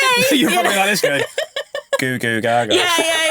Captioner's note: laughing